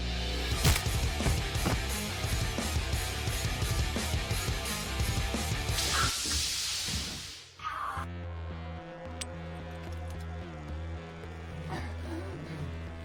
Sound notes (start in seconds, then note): 0.5 wet bone crunch; 0.6 body thud; 8.6 intense techno music